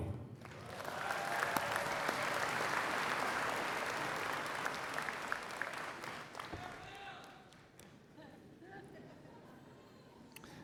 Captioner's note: applause